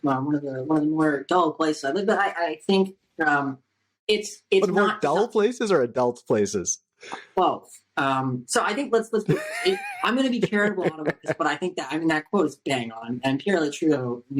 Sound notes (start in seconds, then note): 9.2 laughter